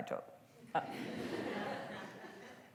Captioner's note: laughter